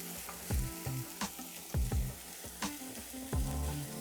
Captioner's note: sizzling sound